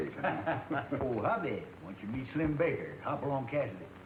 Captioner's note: laughs